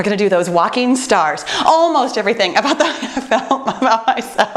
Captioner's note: laughs